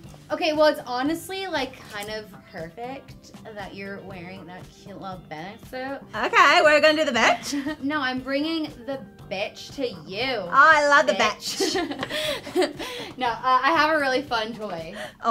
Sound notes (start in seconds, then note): 11.4 both laughing